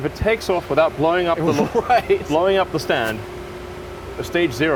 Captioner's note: laughs